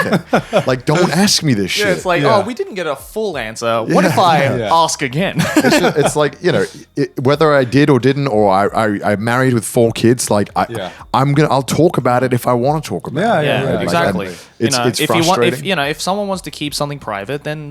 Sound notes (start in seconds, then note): 0.0 laughing; 5.3 chuckle